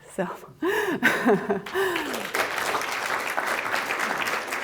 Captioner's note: applause